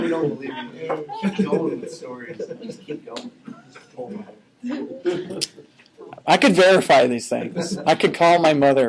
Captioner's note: laughing